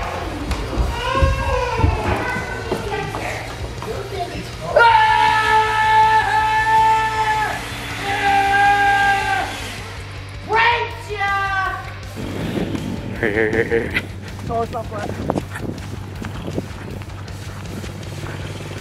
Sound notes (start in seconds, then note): 4.9 leaf blower whirs; 4.9 yelling